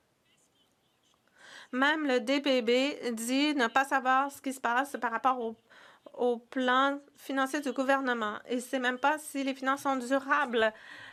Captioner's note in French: voix de l'interprète